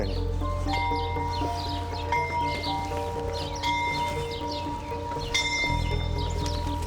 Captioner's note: bell tolls